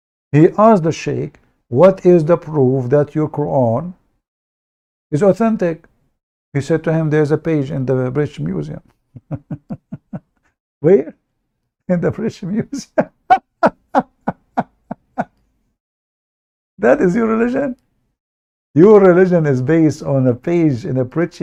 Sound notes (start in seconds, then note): 9.1 Ketawa